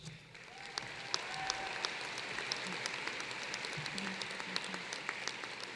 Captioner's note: applause